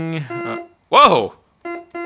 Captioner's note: horn honking